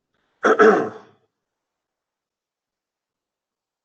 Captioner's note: clears throat